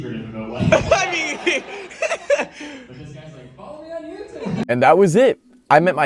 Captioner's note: crowd laughing